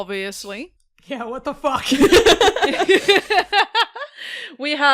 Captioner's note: laughter